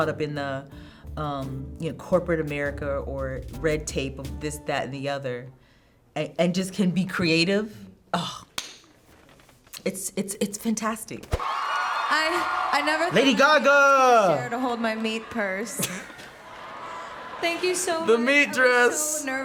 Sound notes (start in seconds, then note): 8.4 claps; 11.4 crowd cheering; 15.7 chuckles